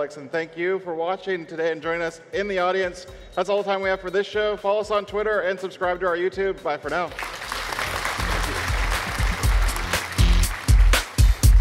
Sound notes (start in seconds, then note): 7.1 applause; 8.4 uptempo music plays